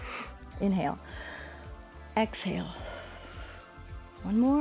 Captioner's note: inhales; exhales